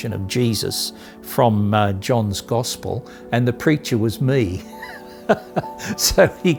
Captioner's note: laughing